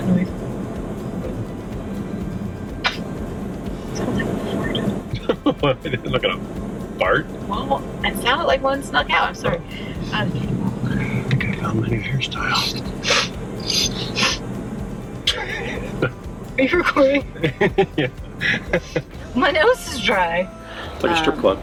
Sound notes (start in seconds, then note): 3.1 laughs; 12.6 sniffing; 16.6 laughing; 16.6 laughs